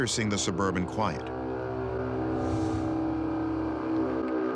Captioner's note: horn-like sound